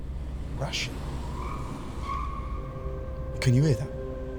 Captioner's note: squeal of tyres